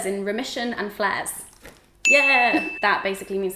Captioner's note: bell dings